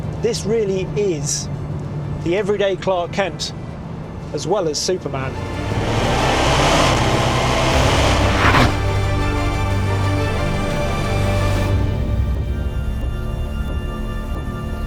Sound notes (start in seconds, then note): 5.2 engine revving; 8.0 dramatic music